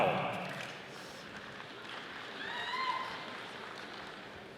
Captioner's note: audience applauding